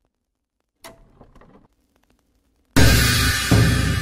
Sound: projector clicking; intense music

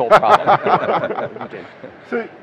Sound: laughter

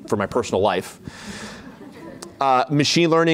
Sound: laughter

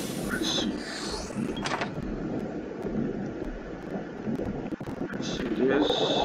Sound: sound of submarine

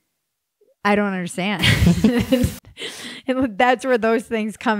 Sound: laughs

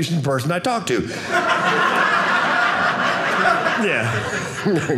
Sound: audience laughing

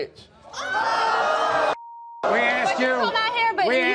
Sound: audience boos

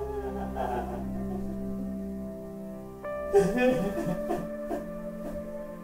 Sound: crying

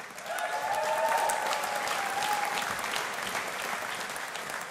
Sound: audience applauding

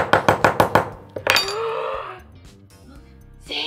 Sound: gasp

